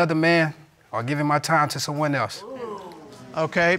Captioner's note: audience exclaiming